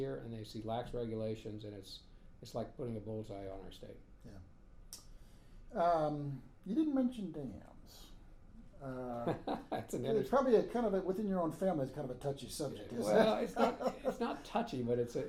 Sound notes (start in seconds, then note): 9.9 laughing